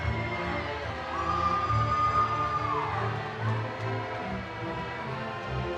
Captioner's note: audience cheering